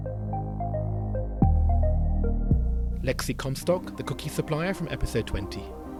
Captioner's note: voiceover